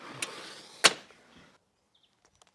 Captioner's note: door clicking